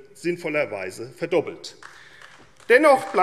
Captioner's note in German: Vereinzelter Beifall AfD